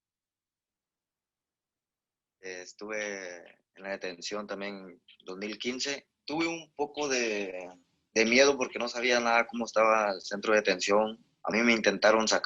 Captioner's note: speaking in Spanish language